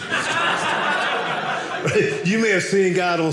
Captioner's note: audience laughing